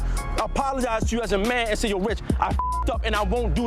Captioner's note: beep